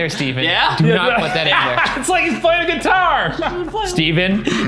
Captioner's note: laughs